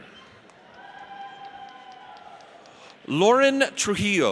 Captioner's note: audience cheers